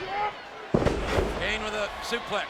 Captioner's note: body thuds